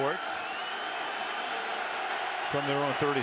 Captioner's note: crowd clamoring